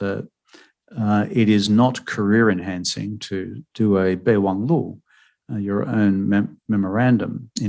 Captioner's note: speaking mandarin